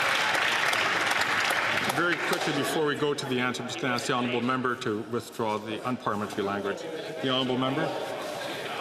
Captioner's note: some Applause